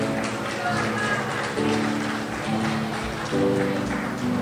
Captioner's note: crowd applauds